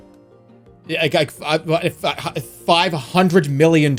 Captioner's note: stammering